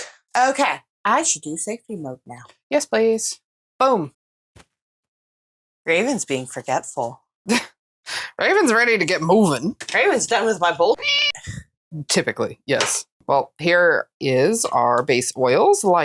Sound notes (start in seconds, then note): 11.0 meow